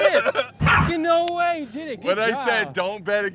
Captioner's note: Mochi barks